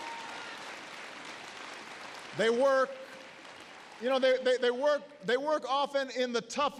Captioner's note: applause